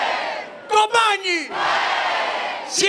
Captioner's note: crowd cheers